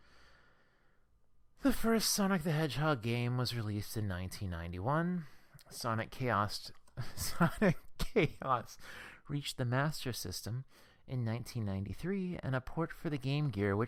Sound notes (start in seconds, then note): 7.1 laughs